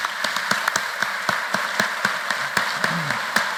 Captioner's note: applause